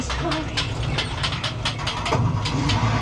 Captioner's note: car revving